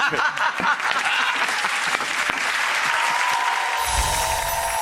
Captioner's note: audience claps and cheers